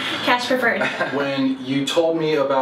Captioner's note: both laugh